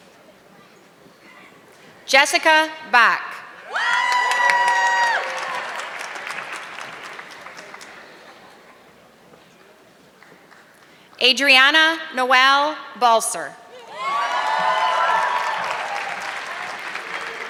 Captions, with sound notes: Jessica Bach. (audience clapping) Adriana Noel Balse. (audience clapping)